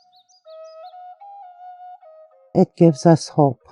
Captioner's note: birds twittering distantly